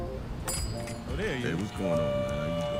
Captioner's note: bell dinging; people chattering